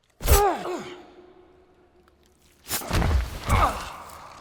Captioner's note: Dan groaning; kick thudding; man thudding